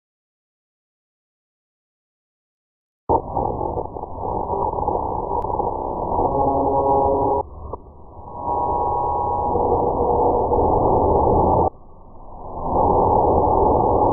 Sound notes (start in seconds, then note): 0.0 scary sound